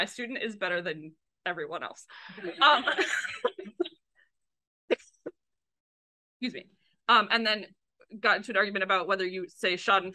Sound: coughs

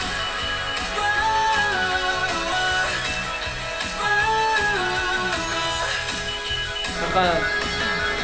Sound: can't stop humming

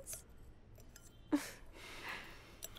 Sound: chuckles

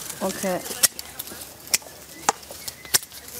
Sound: birds chirping

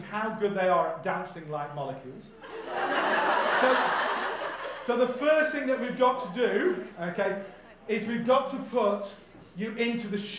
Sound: audience laughs

